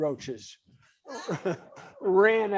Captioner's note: audience laughs